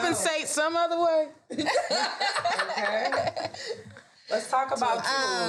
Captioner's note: all laugh